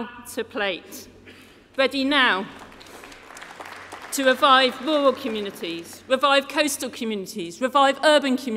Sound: applause

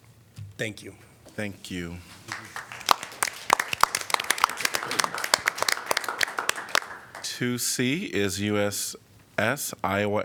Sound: applause

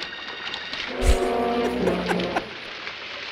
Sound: laughs

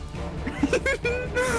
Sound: giggling

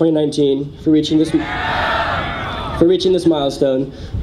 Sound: audience cheers

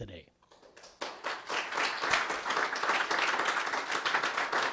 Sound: applause

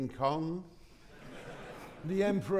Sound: audience laughing

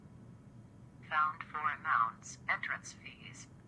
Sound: computer Voice

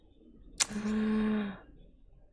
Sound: breathes in

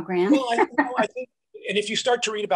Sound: laughs

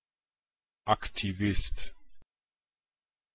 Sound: fast Pronunciation

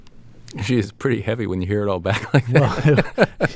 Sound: laughter

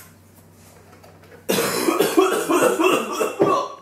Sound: coughing

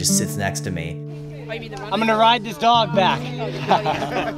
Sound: laughs

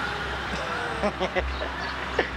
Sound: laughs

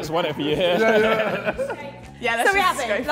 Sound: JJ and Tobi laughing

